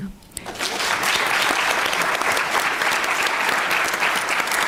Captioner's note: applause